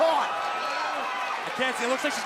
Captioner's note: crowd cheering